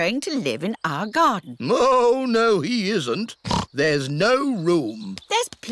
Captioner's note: oinks